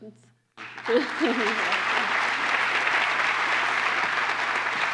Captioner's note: applause